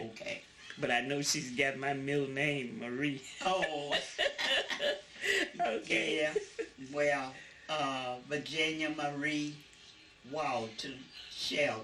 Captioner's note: laughter